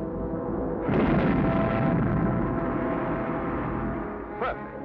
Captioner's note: tense music; explosives boom